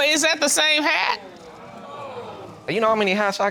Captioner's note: audience groans